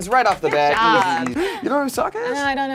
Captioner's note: claps